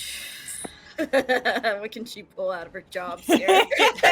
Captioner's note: laughing